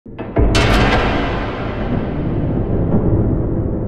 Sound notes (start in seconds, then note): 0.2 metal clanking